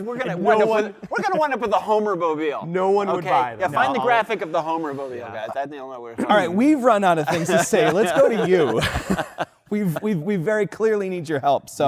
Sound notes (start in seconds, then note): 8.9 laughter